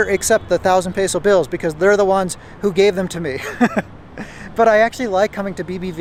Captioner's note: laughs